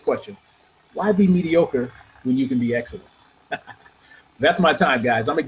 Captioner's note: laughing